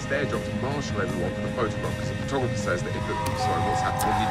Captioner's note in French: bip